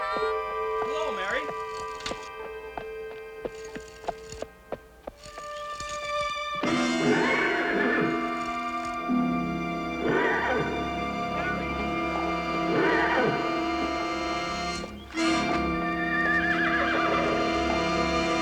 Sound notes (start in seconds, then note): 7.8 horse whinnies; 12.5 music intensifies